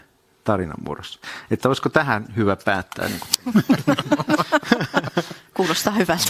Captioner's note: naurua